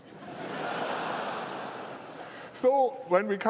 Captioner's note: laughter